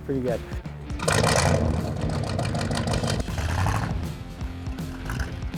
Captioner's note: car engine rumbles